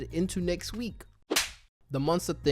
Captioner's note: slap